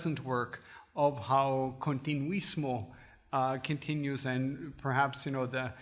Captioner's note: foreign language